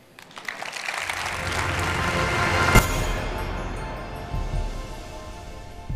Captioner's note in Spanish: Aplausos